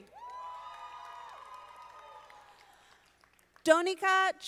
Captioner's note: audience applauding